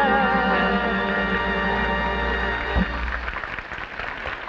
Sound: audience clapping

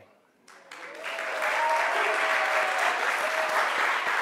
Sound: crowd applauds

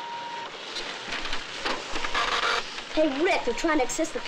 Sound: printer running

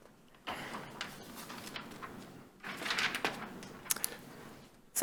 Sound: paper flips

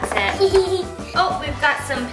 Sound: laughs

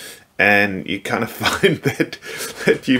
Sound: chuckling

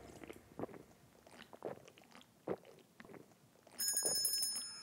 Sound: gulping

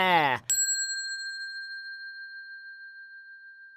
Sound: bell dings

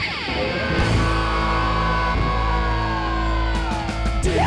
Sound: men screaming

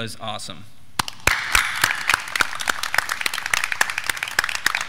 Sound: graduands clapping

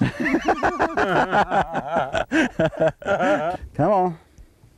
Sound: laughter

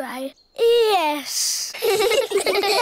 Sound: all giggle

